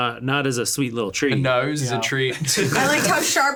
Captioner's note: laughs